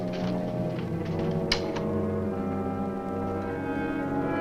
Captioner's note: suspenseful orchestral music; door opens